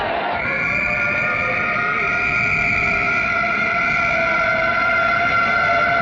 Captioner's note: sirens blaring; whistle blowing